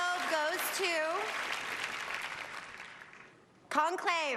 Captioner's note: applause